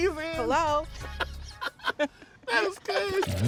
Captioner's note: laughing